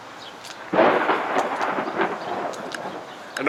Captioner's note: thunder roars